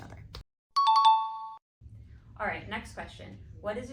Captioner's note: ding sound